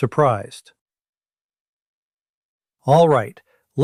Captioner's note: pause